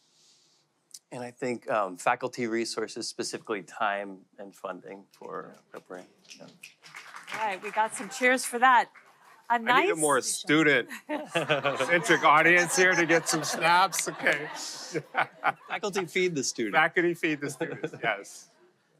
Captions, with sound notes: I think faculty resources, specifically time and funding for brand change. [LIGHT APPLAUSE] We got some cheers for that. I need a more student centered. audience here, can we get some snaps to get some snaps. [LAUGHTER] Faculty feed the students. Faculty feed the students. Yes.